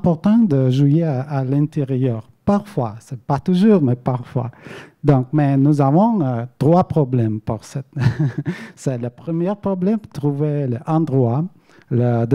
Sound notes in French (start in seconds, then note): 7.9 rires